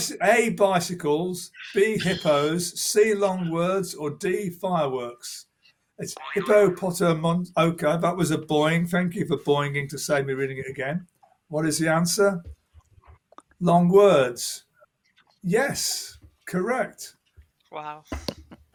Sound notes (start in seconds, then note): 6.1 boing